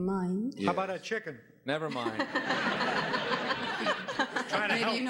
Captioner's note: audience laughing